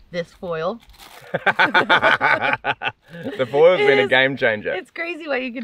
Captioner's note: laughs